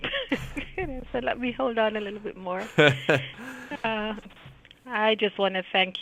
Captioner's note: laughing